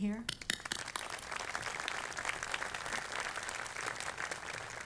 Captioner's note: audience applauding